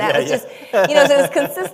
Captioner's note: laughter